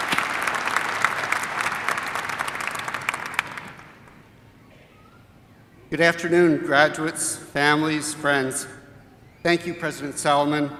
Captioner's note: applause